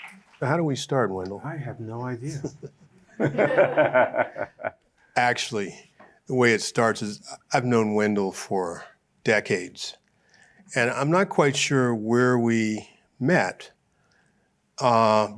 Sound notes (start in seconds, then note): 3.0 laughter